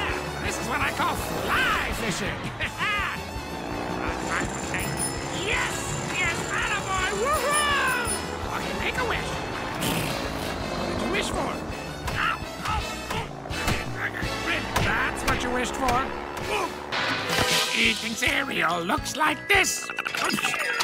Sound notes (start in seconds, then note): 9.4 Perry blows out candles; 12.6 punching noises; 19.8 Perry chatters